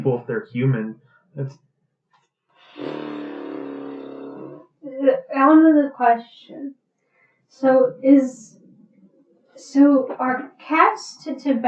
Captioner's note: horse noises?